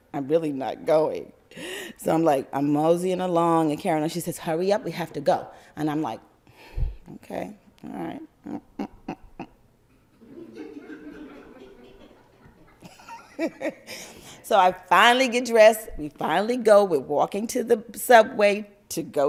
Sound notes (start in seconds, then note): 13.7 complaining sounds; 14.3 laughter